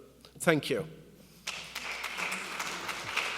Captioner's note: applause